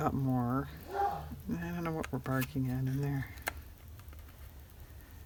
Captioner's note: dog barking